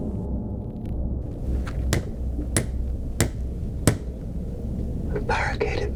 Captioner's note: hammer pounding nails